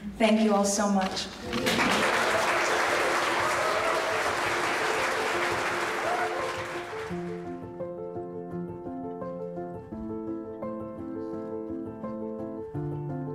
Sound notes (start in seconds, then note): 1.4 attendees clapping; 4.4 light vibrant music